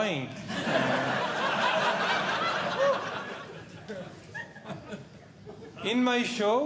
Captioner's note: audience Laughing